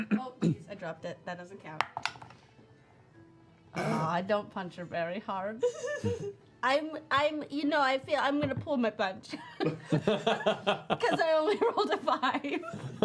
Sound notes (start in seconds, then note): 1.8 dice rolling; 5.7 laughing; 9.7 laughing